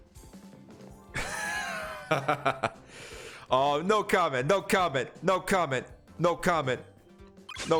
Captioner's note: laughs